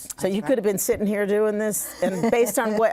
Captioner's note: laughs